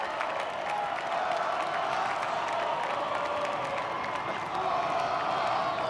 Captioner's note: graduates chanting